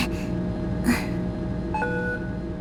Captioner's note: relieved sigh